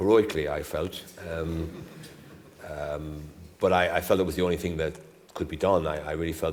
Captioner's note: laughter